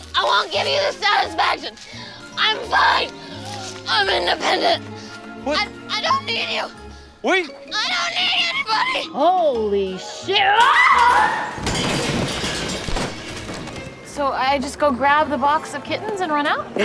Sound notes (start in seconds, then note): 10.3 dee screams